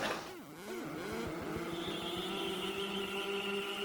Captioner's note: electronics whirring